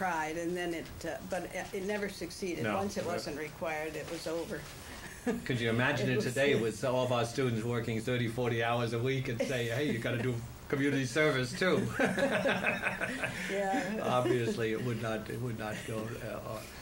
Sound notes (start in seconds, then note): 4.6 laughs; 11.7 laughter